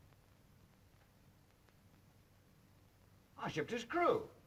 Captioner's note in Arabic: none